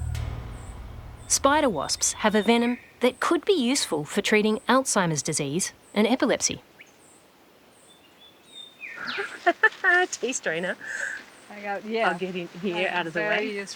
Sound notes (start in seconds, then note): 9.0 laughs